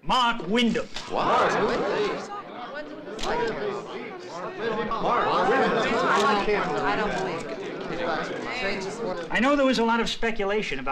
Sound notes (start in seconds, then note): 0.3 reporters reacting in shock